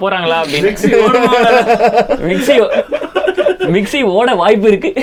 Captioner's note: group laughs